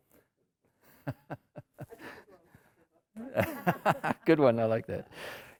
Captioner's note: emcee laughing